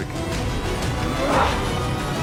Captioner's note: the hound grunts